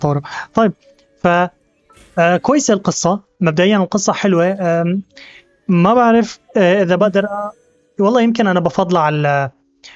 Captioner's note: beeping; whooshing